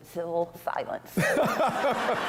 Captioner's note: laughter